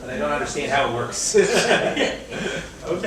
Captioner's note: laughs